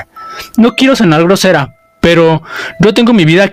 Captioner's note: sighing